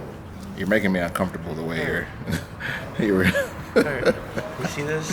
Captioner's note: laughs